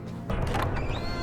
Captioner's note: door opening